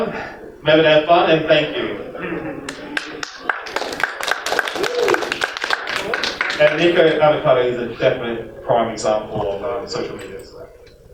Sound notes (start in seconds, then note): 2.7 applause